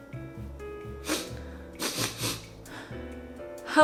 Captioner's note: sniffs